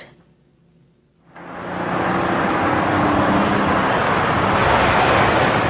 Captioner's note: vehicle engines roaring